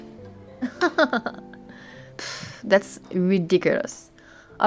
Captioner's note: laughs